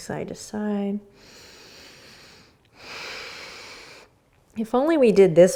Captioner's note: breathing